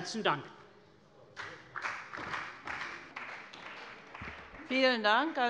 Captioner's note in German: Beifall bei der CDU und dem BÜNDNIS 90/DIE GRÜNEN